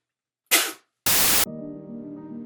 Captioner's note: spitting noise